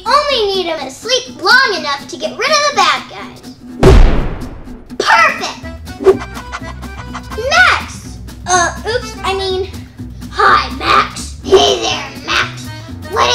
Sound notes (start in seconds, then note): 3.8 slams; 6.0 panting; 10.2 imitating Grinch